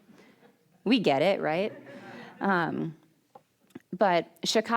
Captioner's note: audience laughing